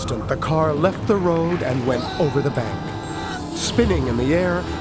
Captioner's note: screaming